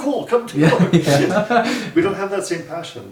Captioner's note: men laugh